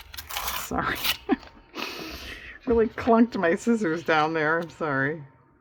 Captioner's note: laughs